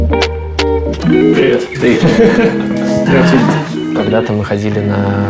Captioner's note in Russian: смеются